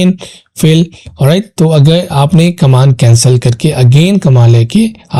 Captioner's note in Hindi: नाक से की जाने वाली आवाज़